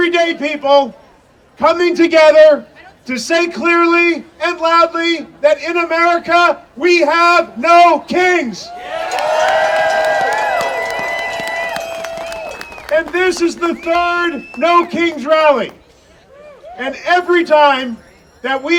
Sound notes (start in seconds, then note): 8.6 audience cheering